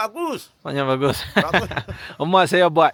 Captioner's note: laugh